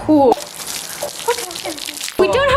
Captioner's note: water splashing